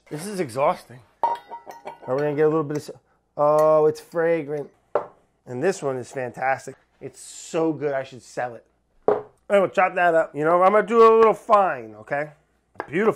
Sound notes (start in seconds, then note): 1.2 metal clanging